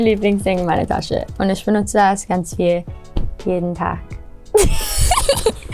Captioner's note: laughs